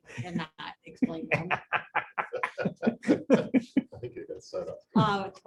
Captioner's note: laughter